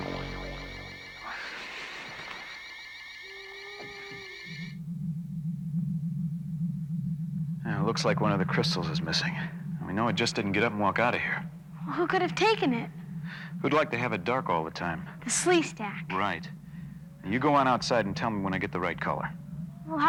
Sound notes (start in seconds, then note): 1.8 electronic whirring